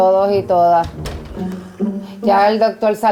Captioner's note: closes bathroom door